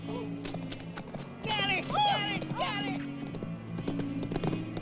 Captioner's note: Timotheus yelling